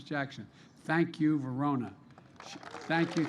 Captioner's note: applause